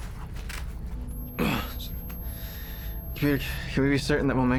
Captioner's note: grunts